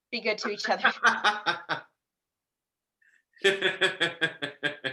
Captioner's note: laughs